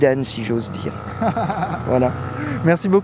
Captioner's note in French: rires